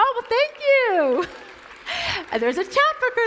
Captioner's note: applause